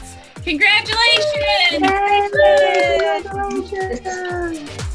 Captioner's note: cheering